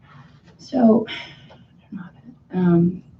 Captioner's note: sighs